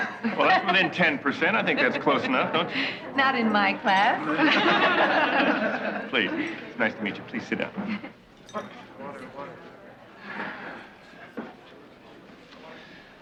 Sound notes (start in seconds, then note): 4.2 laughing